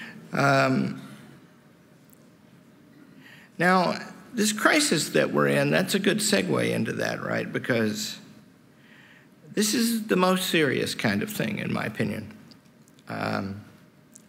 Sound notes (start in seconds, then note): none